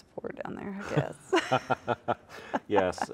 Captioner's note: both laughs